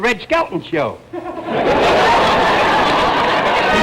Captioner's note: audience laughter